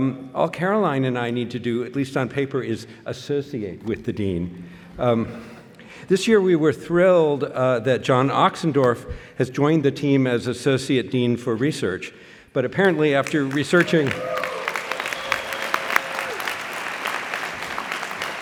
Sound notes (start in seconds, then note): 12.8 applause, cheering